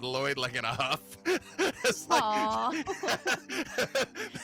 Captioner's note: laughing